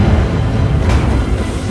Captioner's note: bang